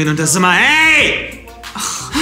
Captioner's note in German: schreit